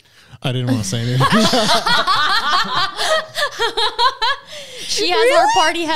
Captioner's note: all laughing